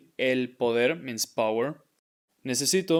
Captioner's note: speaking in Spanish